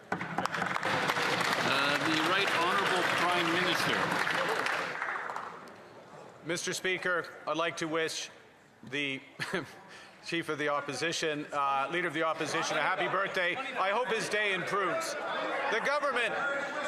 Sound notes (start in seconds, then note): 5.5 some Applause